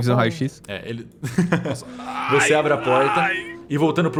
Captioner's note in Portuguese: risos